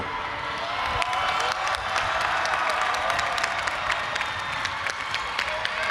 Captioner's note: audience applauding and cheering